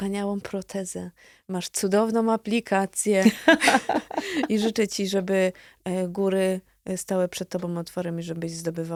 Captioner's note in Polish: śmiech